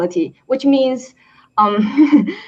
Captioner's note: chuckling